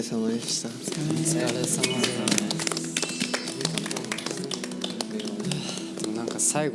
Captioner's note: runners clapping for each other as they ran this far side by side on this race